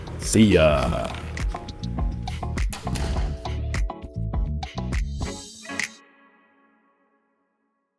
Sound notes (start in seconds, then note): 2.7 door clicks; 4.6 upbeat rousing music